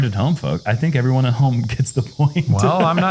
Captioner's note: chuckles